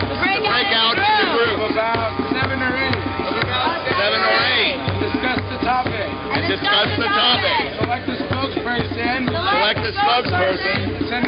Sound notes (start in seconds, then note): 1.7 voiceover; 5.0 voiceover; 7.9 voiceover; 11.1 voiceover